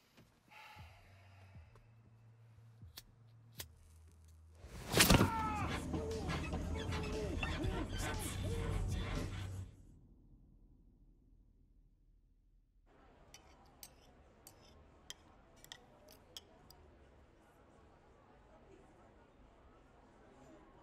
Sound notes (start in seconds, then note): 0.5 exhales deeply; 5.0 screams